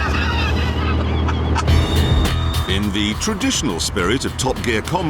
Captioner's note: jeremy laughs